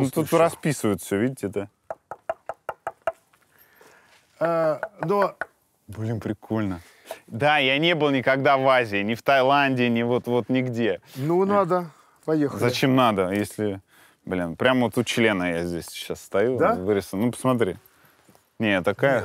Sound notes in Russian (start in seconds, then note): 1.8 стучит; 4.8 стучит